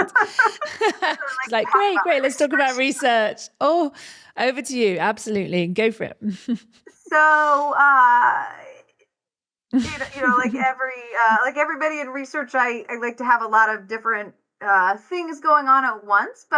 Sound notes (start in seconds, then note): 0.0 both laugh